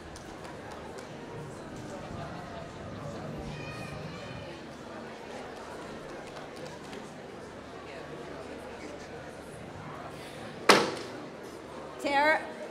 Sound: applause

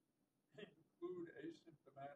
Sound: off microphone

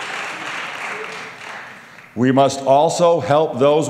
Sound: applause

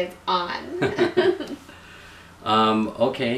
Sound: laughing

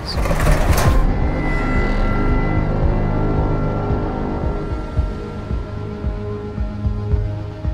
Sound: ominous music; cabinet rattling

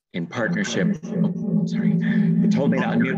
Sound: audio reverb

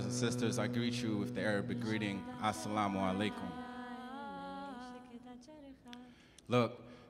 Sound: speaks in Arabic

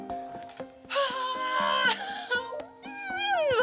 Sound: sighs; squealing

